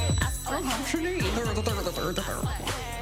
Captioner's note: jabbering; laughs